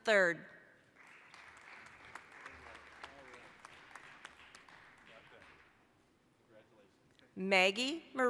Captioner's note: applause